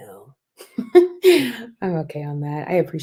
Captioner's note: laughter